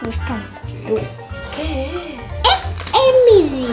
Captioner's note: surprised